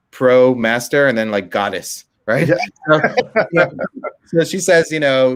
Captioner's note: laughing